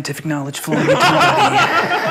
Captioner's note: laughing